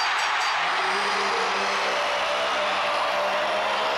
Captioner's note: bell dings